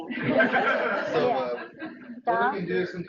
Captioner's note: laughing